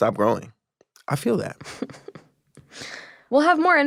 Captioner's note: chuckling